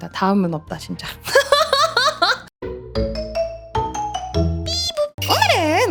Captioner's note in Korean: 웃음